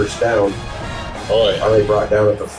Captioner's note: crowd Noises